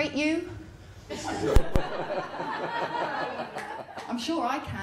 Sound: laughter

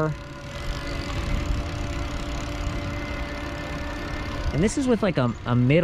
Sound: bike motor whirring

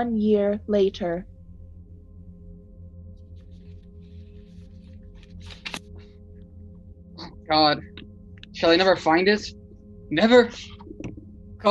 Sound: turning pages of a book

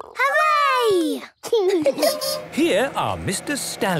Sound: laughing

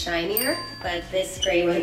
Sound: bell dings

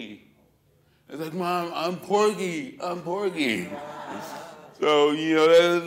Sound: laughter

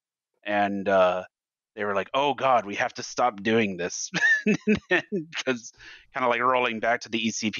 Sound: laughs

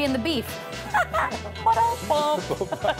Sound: laughing

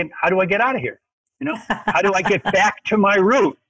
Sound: laughs

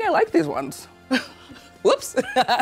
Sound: laughs

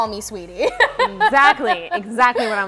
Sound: chuckles

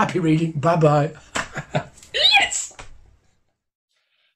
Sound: laughs

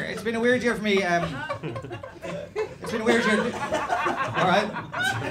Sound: audience excitement

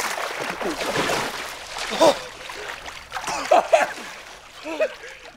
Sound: both gasping for air

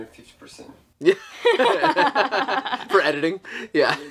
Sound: laughs

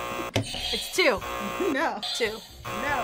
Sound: buzzer rings; buzzer

